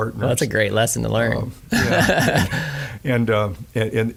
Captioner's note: laughing